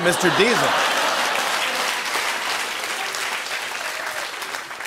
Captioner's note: applause